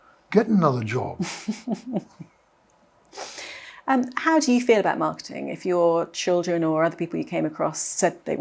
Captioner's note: laughs